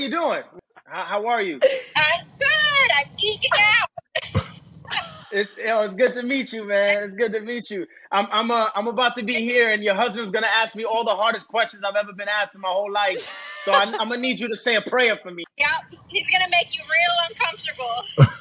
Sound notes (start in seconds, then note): 13.1 laughing